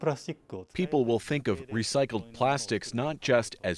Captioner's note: speaking Foreign Language